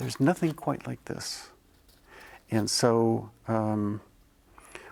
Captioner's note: none